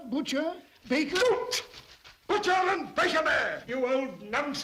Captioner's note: pages fluttering